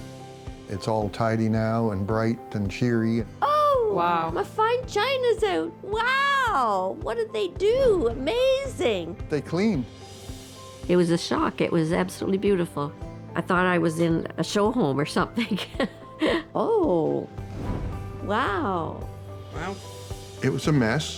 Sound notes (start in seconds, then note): 15.4 chuckles